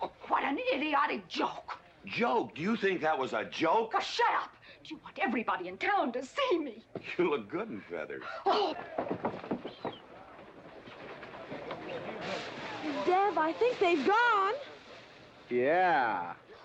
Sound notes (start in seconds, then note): 8.7 pouting loudly; 10.8 hay rustling